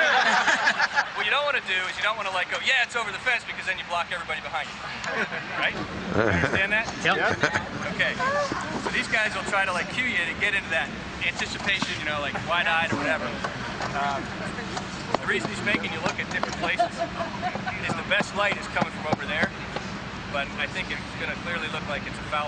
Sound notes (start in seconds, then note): 11.5 laughter